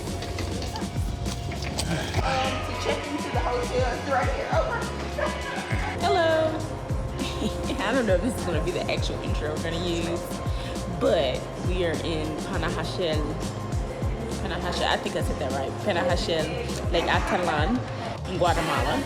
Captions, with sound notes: (door creaks) - Um, to check into the hotel, it's right here. Oh, my God. Hello. (laughs) I don't know if this is gonna be the actual intro that we're gonna use, but we are in Panahashele, Panahashele, I think I said that right, Panahashele, Lake Aitalan in Guatemala.